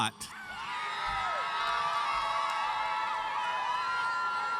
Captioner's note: audience cheers